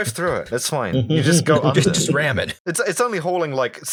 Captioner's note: laughter